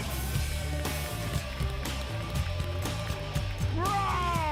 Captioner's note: applause